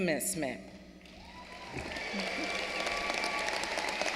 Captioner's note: applause